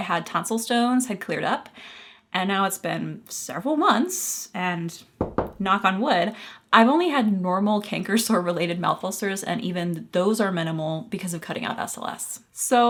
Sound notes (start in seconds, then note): 5.2 knock on wood